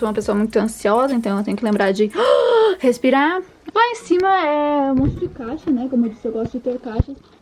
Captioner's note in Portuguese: inalando ar